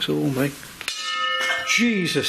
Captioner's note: metallic clanging